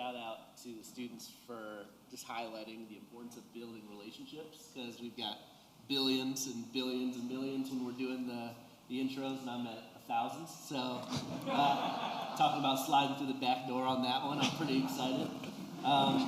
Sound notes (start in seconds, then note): 11.1 laughter